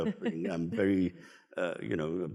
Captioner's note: laughs